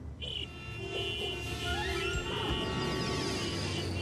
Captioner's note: horns honking